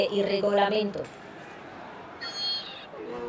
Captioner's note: Disappointed shouts from Italy